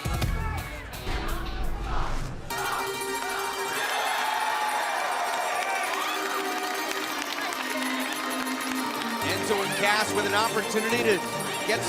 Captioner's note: crowd cheering